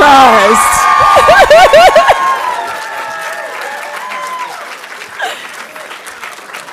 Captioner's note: audience cheering and applauding